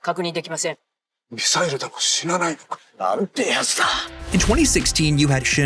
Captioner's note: japanese speech